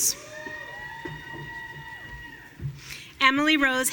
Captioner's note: audience cheering